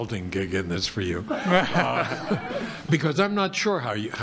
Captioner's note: audience laughing